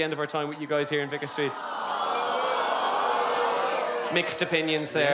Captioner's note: audience boos and aww